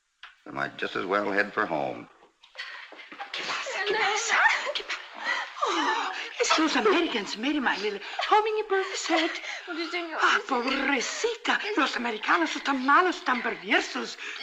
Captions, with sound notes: I just as well ahead for home. - [ IN SPANISH ] What's wrong? - [ SOBBING ] Oh, Elena... Those Americans... [ IN SPANISH ] Poor child, Americans are so bad, so perverse...